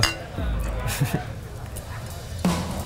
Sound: both giggle

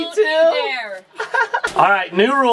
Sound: laughs

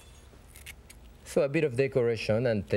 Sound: scissors snipping

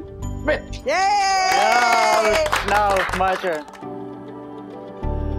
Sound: cheering

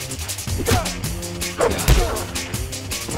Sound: heavy hit

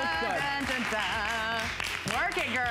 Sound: applause

